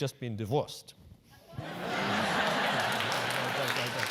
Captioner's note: laugh; applause